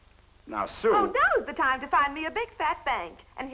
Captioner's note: sarcastically